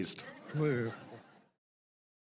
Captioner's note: audience laughing